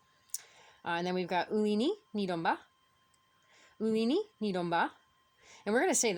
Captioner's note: speaking Abenaki